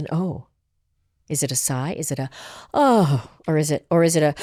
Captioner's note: gasps; groans